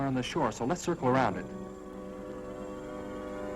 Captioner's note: whispering